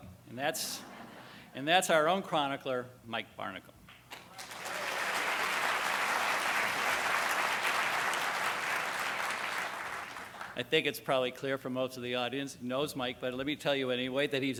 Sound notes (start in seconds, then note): 4.1 applause